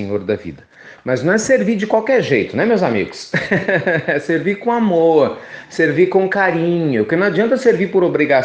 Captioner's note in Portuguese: risos